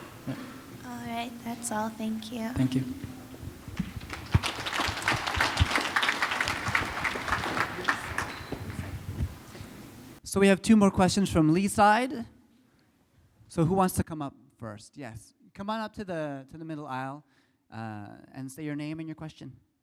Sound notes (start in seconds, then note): 8.5 applause